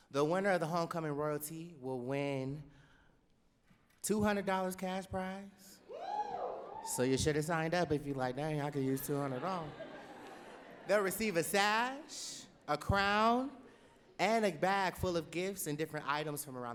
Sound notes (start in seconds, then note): 9.2 laughing